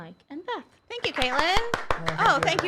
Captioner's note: crew applauds